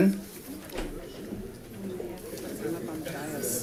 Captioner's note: crowd chatting